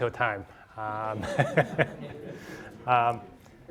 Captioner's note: all laughing